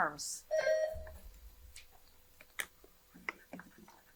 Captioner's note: buzzer buzzing